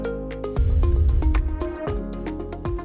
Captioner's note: upbeat music; air whooshing